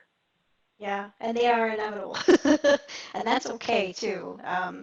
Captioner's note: laughs